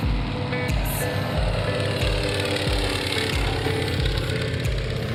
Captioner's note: plane engine roaring